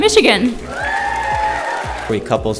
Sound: attendees cheering

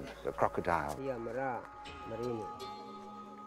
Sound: speaking Indonesian

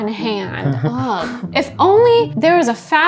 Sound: chuckling

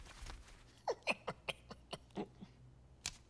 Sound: laughing

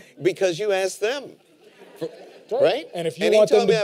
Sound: laughter

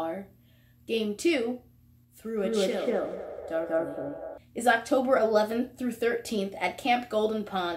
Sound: voice shifts darker

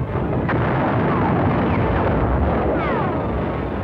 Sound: explosions

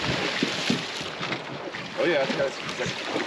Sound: splashing

